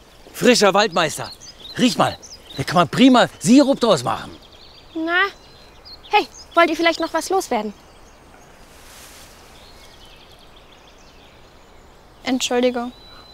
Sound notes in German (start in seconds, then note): 8.8 Idyllisches Vogelgezwitscher